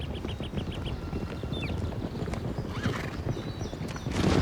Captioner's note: horse hooves rumbling